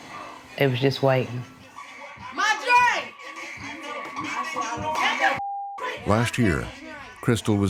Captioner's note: yelling